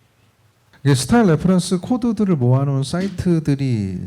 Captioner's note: speaking korean